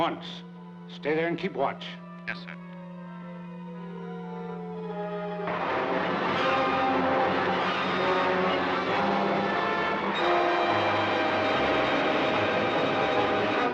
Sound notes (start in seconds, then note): 5.9 Cody whooshing; 5.9 dramatic orchestral music